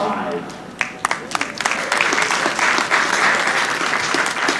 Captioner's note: audience applauding